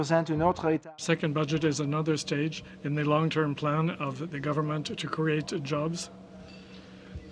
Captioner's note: speaking French